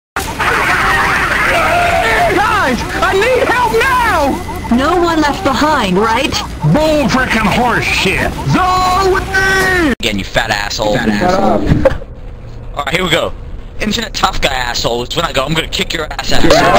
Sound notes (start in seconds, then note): 10.9 laughing